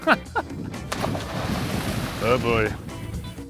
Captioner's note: water splashing